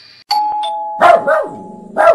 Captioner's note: doorbell; dog barking